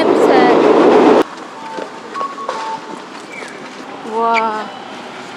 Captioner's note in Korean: 일본 특유의 신호등 소리